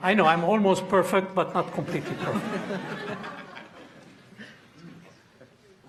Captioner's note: audience laughing